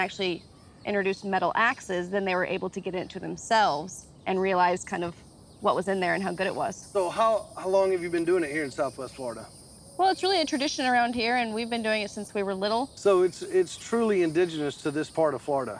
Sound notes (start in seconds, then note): none